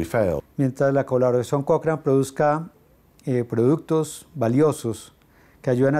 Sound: Spanish

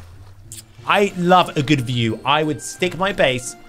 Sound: lips smacking

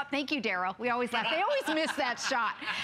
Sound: laughter

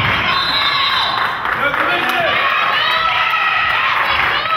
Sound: crowd claps; whistle blows

